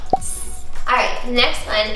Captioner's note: hisses